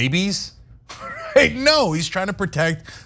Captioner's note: laugh